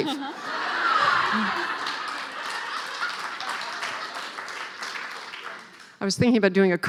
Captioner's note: laughing